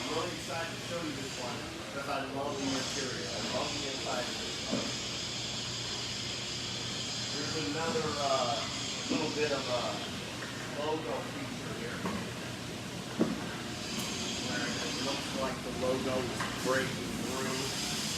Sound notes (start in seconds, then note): 6.2 machine whirring